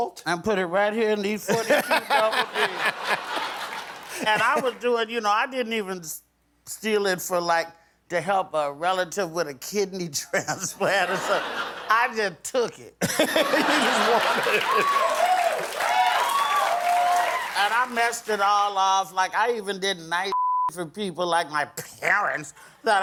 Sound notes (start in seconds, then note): 13.0 laughter; 15.2 cheering